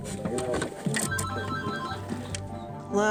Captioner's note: phone ringing